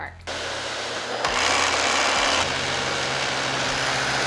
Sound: vacuum whirling

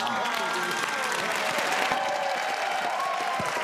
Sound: applause

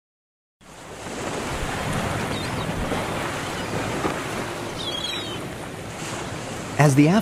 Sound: ocean sounds

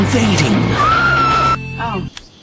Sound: screams; music stops; click

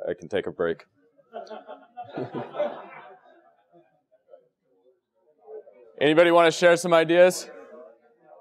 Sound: laugh

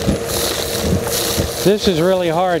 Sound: vacuum Sound

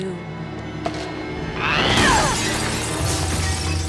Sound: screaming; glass breaking

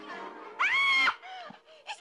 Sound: shrieks

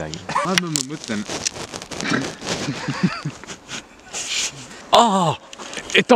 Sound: stick breaks

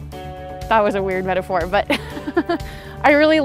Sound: laughs

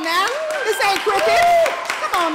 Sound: applause

